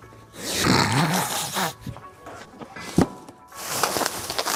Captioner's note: laughing